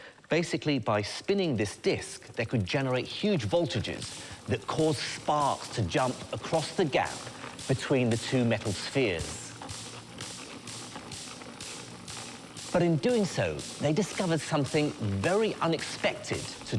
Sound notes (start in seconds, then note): 9.7 sparks snap; 9.7 wheel spins